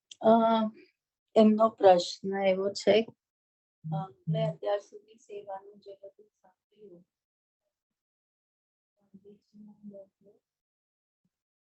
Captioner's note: non-english speech